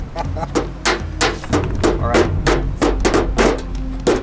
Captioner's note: knife hitting table